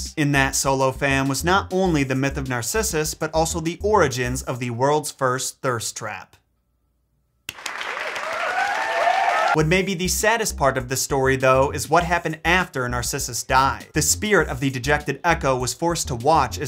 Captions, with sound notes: And that, Solo fam, was not only the myth of Narcissus, but also the origins of the world's first thirst trap. (crowd applauding) (crowd cheering) What may be the saddest part of the story, though, is what happened after Narcissus died. The spirit of the dejected Echo was forced to watch